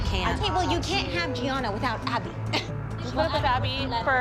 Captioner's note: chuckles